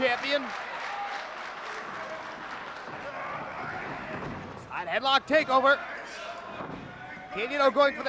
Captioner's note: applause